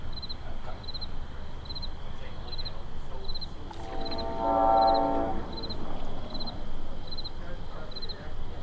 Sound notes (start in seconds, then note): 3.5 ship horn blows